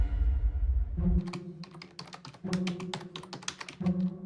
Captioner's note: tense music continues; keyboard clattering; bright orchestral music